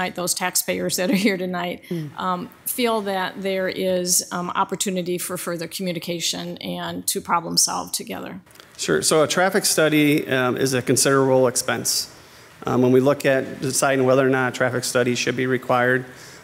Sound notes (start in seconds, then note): none